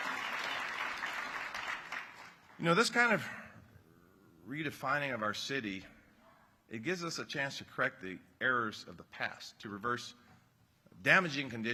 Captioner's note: applause